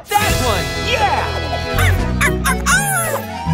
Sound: barking

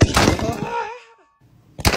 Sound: screams

